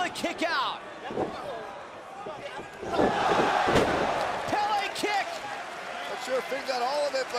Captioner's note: crowd cheering